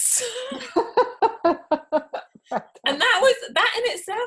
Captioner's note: both laughing